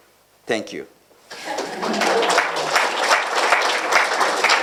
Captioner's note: applause